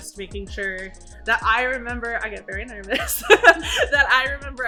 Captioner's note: laughs